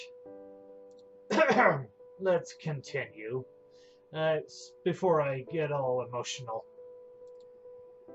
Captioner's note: clears throat